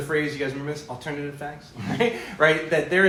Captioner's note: brief laughter